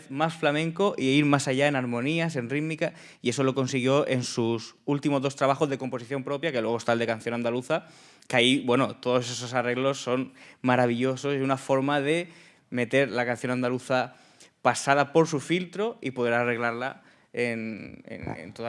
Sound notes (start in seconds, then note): 2.1 speaking in Spanish; 12.7 speaking in Spanish